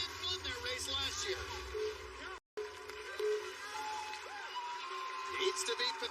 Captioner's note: countdown clock beeping